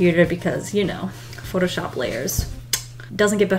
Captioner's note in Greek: Σμουτς